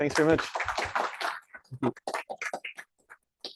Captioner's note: applause